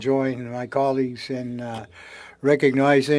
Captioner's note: speaking French